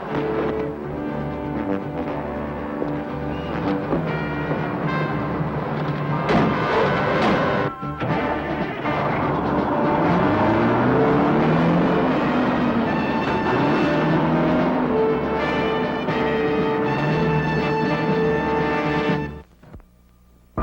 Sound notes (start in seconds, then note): 0.3 dramatic music; 6.2 door thuds close; 9.7 truck whizzes; 13.3 dramatic music